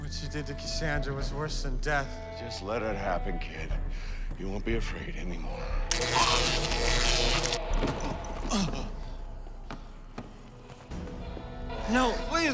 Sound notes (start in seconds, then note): 5.9 zapping